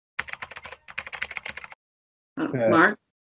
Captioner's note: keyboard clicking